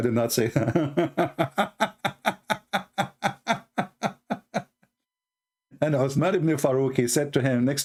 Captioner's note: Ketawa